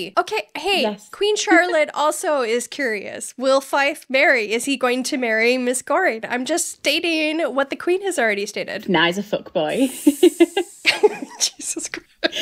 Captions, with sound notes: Okay, hey, Queen Charlotte also is curious. Will Fife marry? Is he going to marry Miss Goring? I'm just stating what the Queen has already stated. - Nah, he's a fuck boy. (laughing) - Jesus Christ.